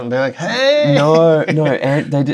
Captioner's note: laughter